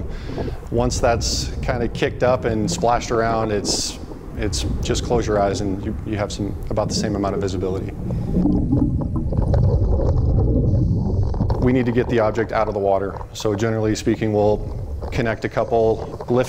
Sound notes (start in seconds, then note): 8.9 water gurgling